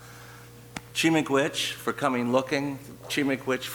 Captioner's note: speaking in foreign language